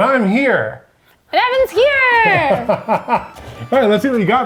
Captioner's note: laughing